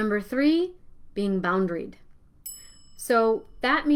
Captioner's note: bel rings